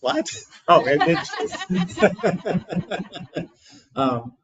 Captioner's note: people laughing